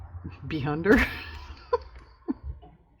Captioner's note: laughs